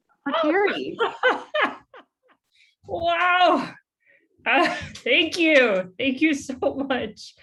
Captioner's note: laughs